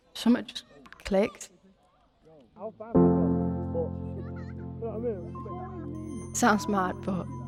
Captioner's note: chatter between friends continues